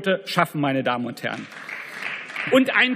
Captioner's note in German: Beifall